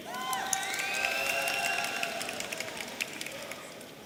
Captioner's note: audience cheering